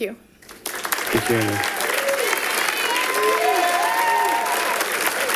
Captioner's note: audience applauding